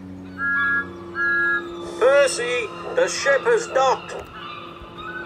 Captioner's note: peeps loudly